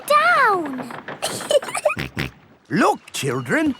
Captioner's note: giggling; snorts